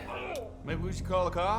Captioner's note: man groaning